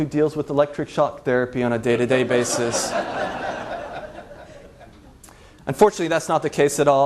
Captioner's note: laughs